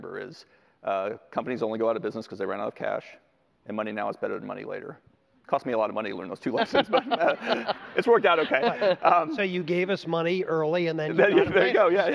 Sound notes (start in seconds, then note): 8.5 laughter